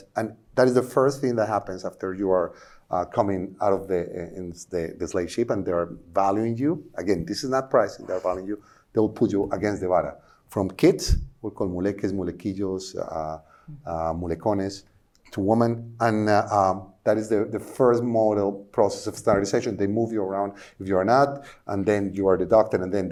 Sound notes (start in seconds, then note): 12.6 speaking spanish